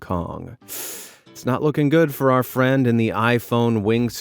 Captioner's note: hisses